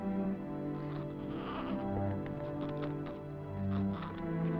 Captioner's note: baby babbling